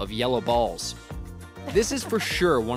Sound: laughter

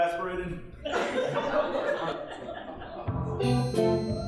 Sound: audience laughing; calliope music

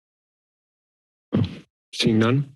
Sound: silence; thump

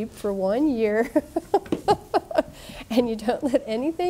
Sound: laughing

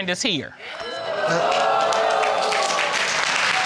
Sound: crowd cheering

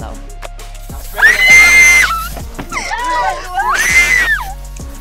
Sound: screaming

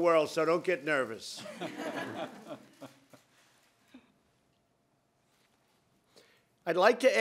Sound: laughter

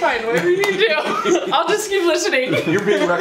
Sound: laughter

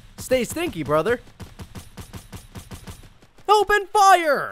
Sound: gunshots

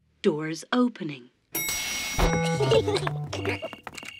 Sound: elevator bell dings; kids giggling

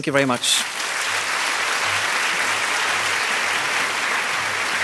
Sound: applause

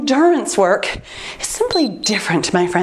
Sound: timer beeps

